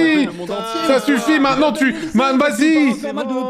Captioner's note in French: brouhaha